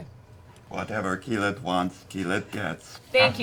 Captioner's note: robotic voice